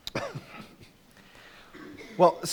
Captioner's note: laughing